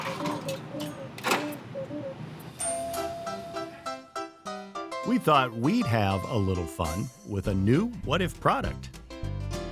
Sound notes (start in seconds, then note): 2.6 bell dings; 2.6 gentle music